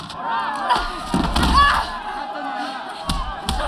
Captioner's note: fighting, cheering